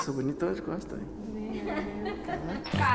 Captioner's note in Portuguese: Risos